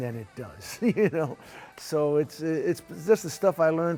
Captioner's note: laughs